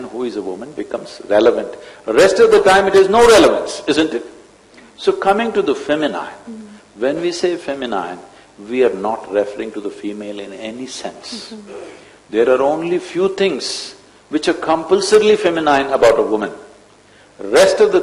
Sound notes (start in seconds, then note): none